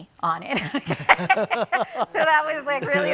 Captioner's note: people laugh